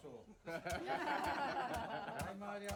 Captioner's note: laughs